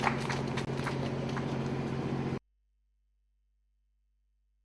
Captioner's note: applause